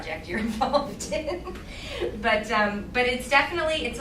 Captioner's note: laughing